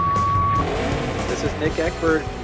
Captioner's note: countdown clock beeps; engine revving